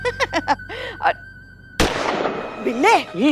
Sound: gunshot

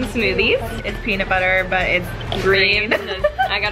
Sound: laughs

